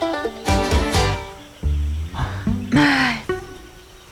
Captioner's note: birds; sighs